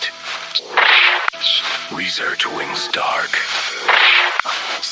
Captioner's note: Static